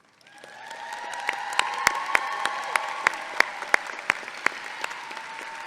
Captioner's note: audience clapping and cheering